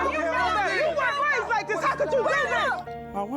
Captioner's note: screaming